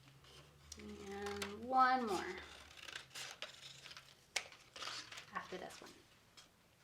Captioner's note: scissors snipping